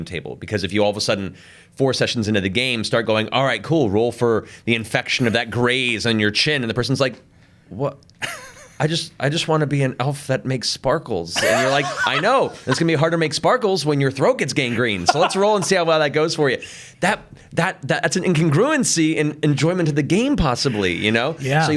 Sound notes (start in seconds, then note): 8.2 chuckles; 11.3 laughs